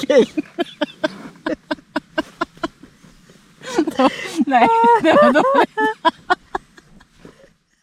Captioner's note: laughter